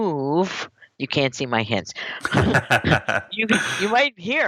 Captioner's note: laughs